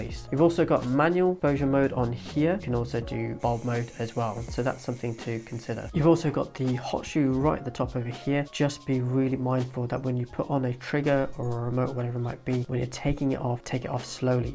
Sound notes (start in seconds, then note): 3.9 camera whirring